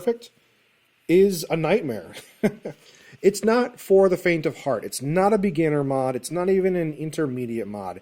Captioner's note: chuckles